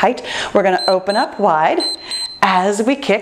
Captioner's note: timer beeps